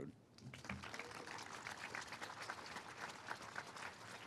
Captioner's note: all applauding